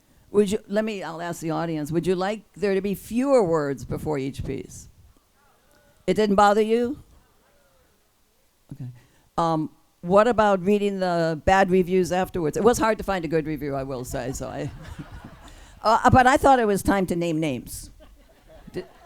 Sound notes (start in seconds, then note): 14.5 laughs; 14.6 group laughs